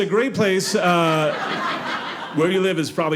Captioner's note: audience laughing